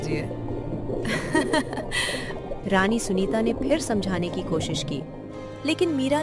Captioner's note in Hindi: हंसी